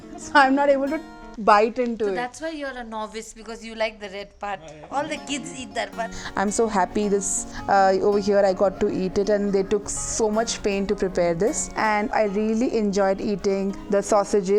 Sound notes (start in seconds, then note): 4.6 laughs